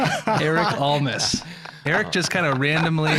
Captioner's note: all laughing